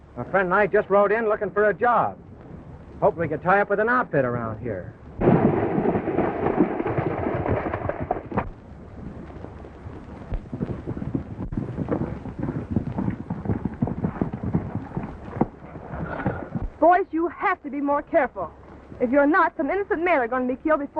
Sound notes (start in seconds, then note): 5.2 horses galloping in water; 8.4 horses galloping